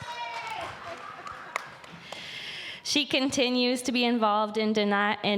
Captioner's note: applause